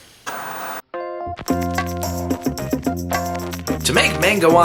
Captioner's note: static crackling; upbeat music